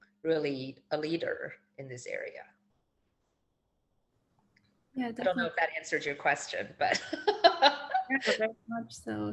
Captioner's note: chuckles